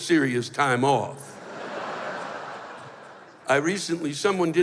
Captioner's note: laughter